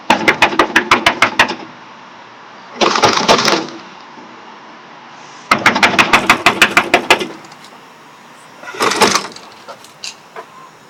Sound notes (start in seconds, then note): 8.2 knocking on door; 8.7 shaking door